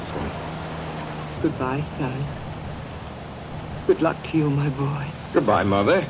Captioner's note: apprehensive